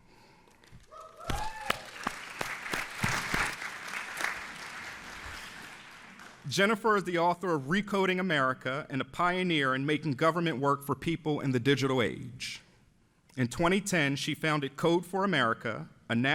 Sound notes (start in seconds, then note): 0.9 audience applauds